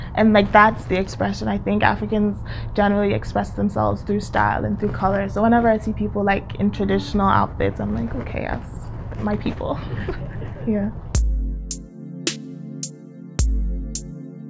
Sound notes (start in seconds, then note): 9.8 chuckles; 11.0 smooth music